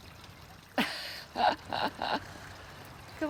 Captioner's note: laughs